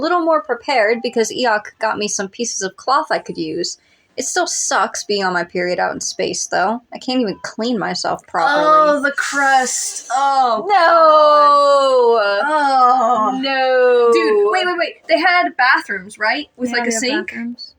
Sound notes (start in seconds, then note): 9.2 sharp Inhale